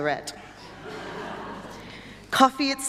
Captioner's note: audience laughter